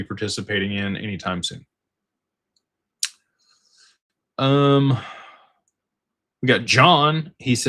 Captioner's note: sighs